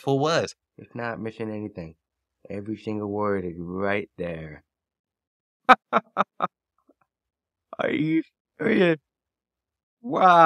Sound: laughing

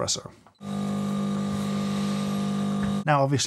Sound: coffee machine humming

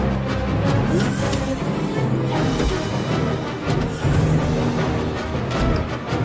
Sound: ship door opens, then closes

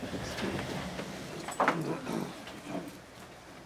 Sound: rustling

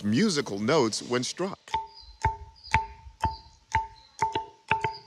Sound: pillar ringing

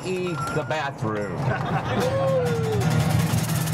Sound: laughter

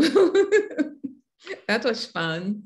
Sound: chuckles

